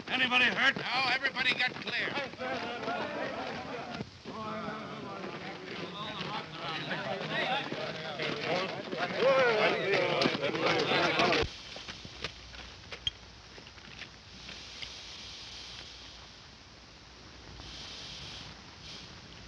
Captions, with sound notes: - Anybody hurt? - No, everybody got clear. [chattering]